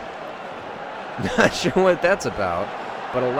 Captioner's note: laughs